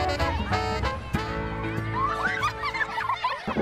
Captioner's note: laughing